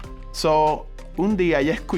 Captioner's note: speaking Spanish